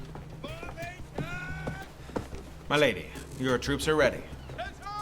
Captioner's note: soldiers shouting